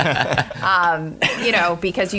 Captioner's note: laughter